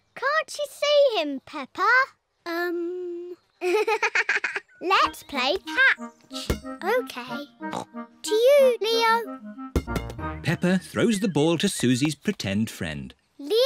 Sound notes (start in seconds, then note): 3.6 giggles